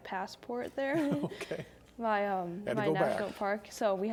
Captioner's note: laughing